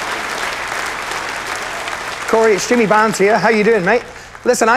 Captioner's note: cheering, applause